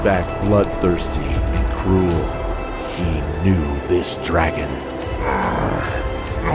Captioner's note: groaning from force